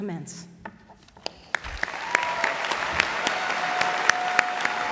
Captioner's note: applause, cheering